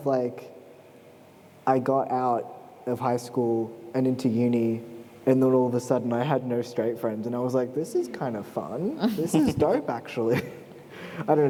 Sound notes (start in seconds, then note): 9.0 laughter